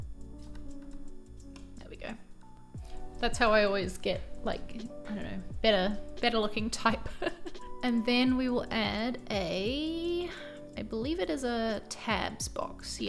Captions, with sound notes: (gentle music) There we go. That's how I always get, like I dunno, better looking type. (laughs) And then we will add a, I believe it is a tabs box.